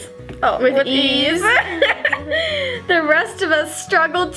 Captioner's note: laughs